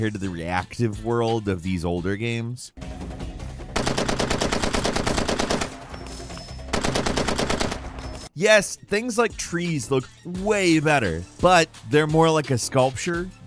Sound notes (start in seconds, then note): 2.8 dramatic music; 3.7 machine gun firing